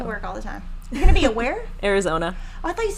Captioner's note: laughing